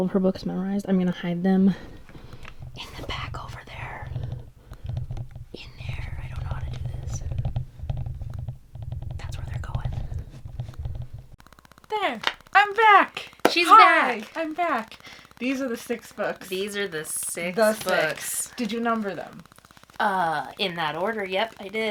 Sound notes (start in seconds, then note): 12.6 clap